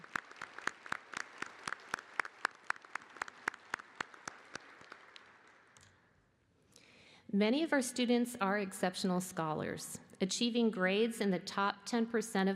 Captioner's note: applause